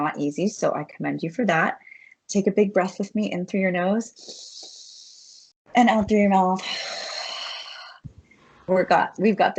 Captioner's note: inhales; exhales